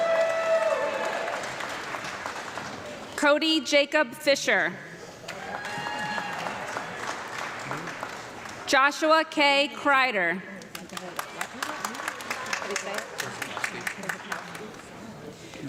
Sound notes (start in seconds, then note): 0.0 audience clapping and cheering; 5.2 audience clapping; 10.5 audience clapping